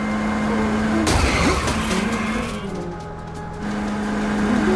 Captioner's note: car crashing